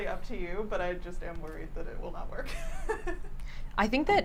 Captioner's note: laughs